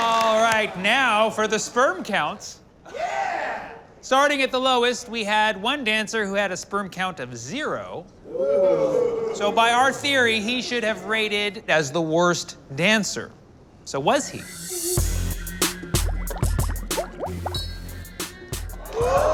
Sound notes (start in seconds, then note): 0.0 crowd cheering; 8.2 crowd; 14.3 upbeat music; 16.2 water bubbling